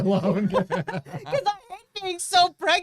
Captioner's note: both laughing